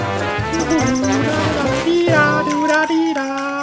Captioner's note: humming